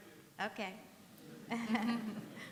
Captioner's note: laughter